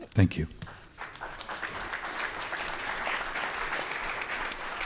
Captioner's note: audience applauding